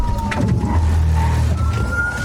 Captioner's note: thuds